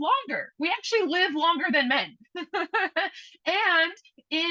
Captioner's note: laughs